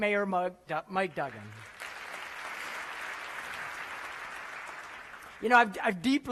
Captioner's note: applause